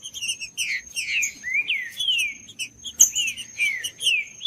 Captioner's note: trinca ferro cantando